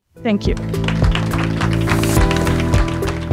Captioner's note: audience clapping